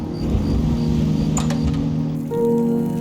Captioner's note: door opening